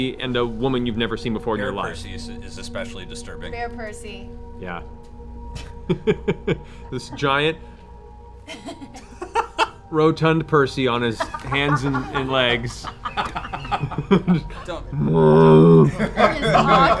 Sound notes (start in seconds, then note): 12.0 bear noises